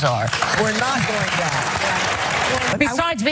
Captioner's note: applause